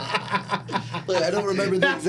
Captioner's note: laughing